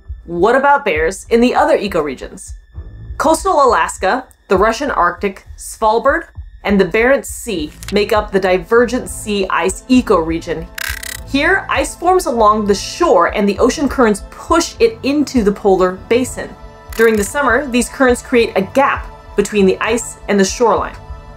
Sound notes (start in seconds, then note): 2.5 background music; 10.7 glitch sound effect; 10.7 background music; 21.1 background music